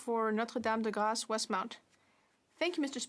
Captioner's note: speaking French